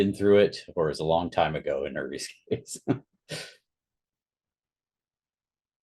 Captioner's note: laughs